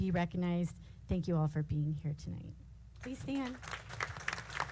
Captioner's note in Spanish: aplausos